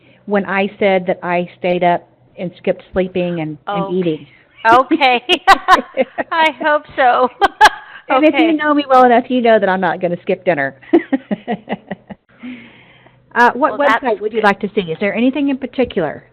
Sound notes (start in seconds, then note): 5.4 laughter